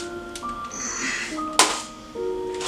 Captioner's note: grunts